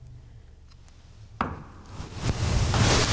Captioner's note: knock; rustling